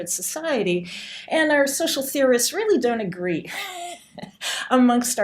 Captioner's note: laughing